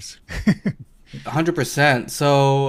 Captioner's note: chuckles softly